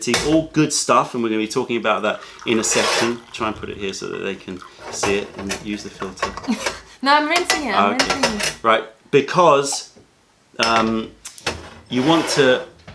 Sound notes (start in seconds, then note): 6.4 laughter